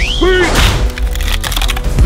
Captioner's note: wood snapping